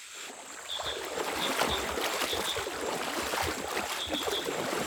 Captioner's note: water splashing